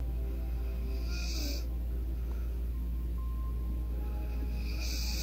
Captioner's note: snoring